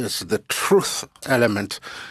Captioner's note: speaking French